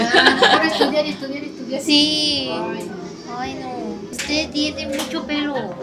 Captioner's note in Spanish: risas